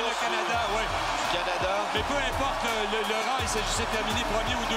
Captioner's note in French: cris de la foule